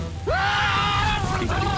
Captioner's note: screaming